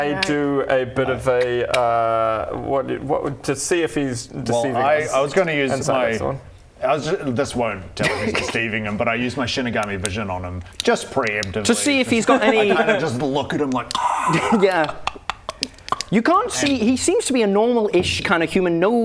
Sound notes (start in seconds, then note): 15.5 hrrrrrrgrrhghhh ck-ck-ck-ck-ck